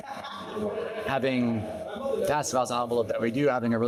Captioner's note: audio distorting